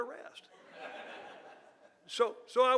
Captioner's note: audience laughing